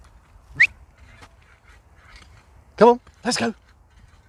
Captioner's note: whistling